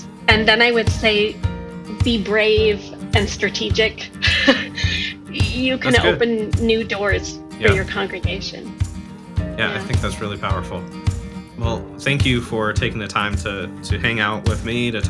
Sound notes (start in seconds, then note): 3.8 laughing